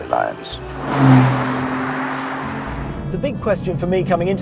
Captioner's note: car zooming